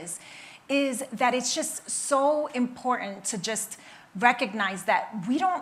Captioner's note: none